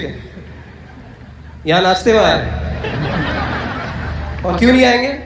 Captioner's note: audience Laughter